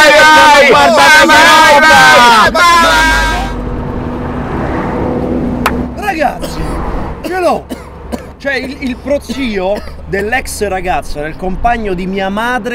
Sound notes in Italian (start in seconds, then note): 3.5 auto che passano; 7.7 si strozza